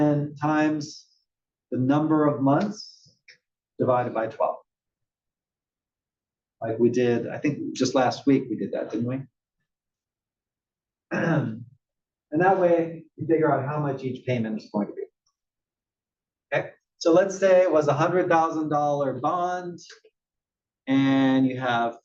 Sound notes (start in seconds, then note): 11.1 cough